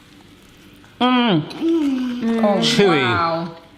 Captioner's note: sounds of delight